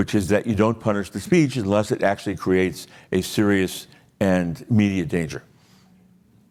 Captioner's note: none